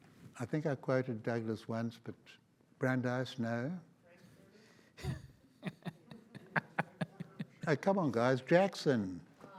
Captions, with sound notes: I think I quoted Douglas once, but... Brandeis, no. (audience laughs) Hey, come on, guys. Jackson.